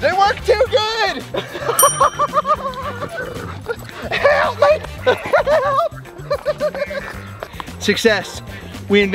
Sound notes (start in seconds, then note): 1.6 Rocky laughs; 1.8 bell dings; 3.4 Willie growls; 5.1 Rocky laughs